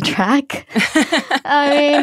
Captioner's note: laughter